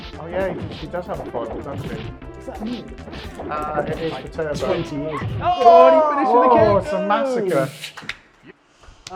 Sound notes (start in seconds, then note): 0.0 legs whooshing; 1.6 legs thudding; 3.3 legs whooshing